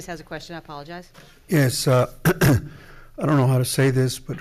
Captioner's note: clears throat